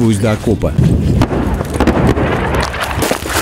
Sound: firing

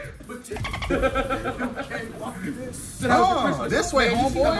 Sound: laugh

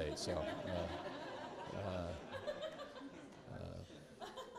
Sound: students laughing

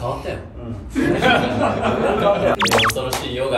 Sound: laughter

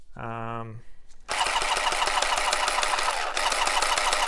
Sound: whirs

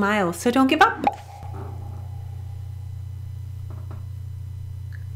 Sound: bubble pops

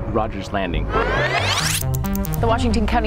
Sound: tape whirring

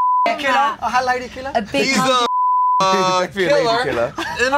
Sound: beep

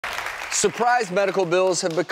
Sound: applause

